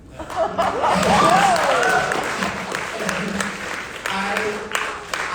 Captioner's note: audience applauding